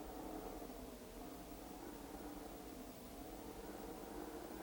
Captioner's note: none